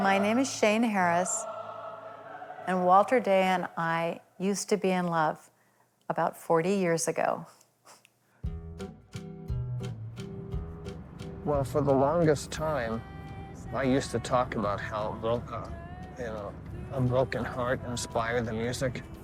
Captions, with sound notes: My name is Shane Harris, and Walter Day and I used to be in love about 40 years ago. [chuckles softly] [soft quirky music] Well, for the longest time I used to talk about how broke, uh, you know, a broken heart inspired the music.